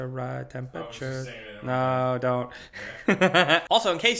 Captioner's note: male Voice